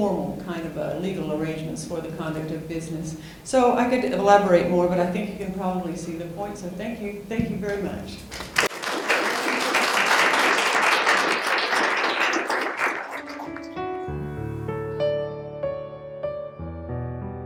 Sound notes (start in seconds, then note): 8.2 applause